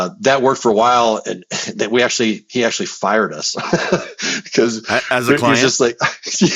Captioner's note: laughs